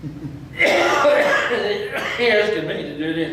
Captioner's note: coughs